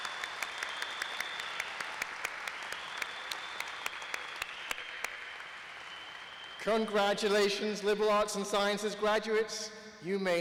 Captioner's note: applause